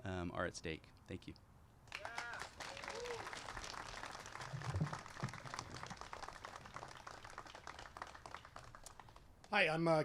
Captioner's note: applause